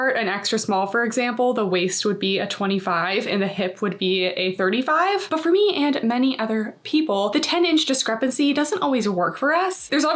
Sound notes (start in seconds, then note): none